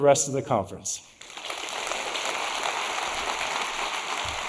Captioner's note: audience applauding